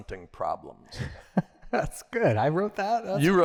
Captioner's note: laughter